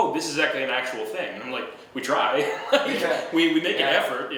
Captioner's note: laughing